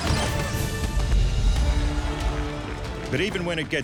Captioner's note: crowd cheering